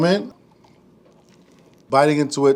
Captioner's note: bread crunching